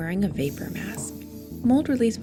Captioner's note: spray can hisses